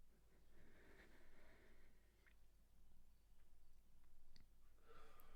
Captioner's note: Marianne exhales slowly